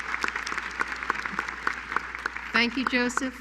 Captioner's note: applause